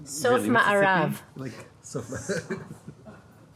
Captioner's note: speaking in foreign language; chuckles